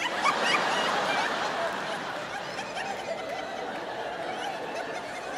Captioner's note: audience laughing